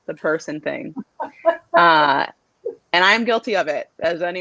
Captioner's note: laughter